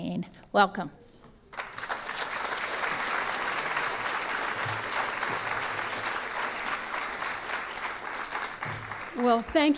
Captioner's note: applause